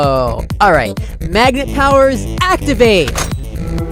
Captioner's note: inhale